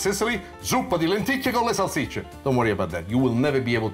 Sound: speaking in foreign language

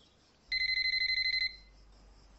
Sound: phone ringing

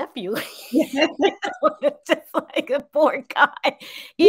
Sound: both laugh

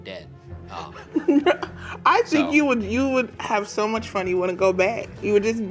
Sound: laughs

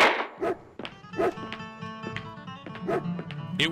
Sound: dog Barking

